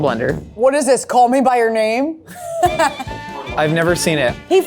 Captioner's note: laughs